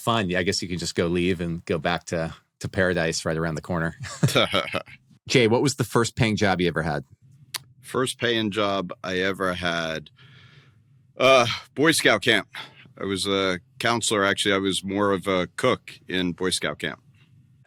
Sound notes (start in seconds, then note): 4.0 laughs